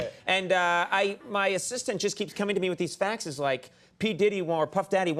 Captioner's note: none